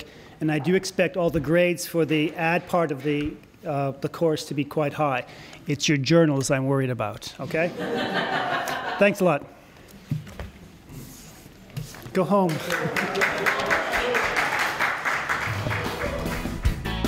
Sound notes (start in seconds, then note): 7.6 laughter; 12.4 applause; 16.8 closing Music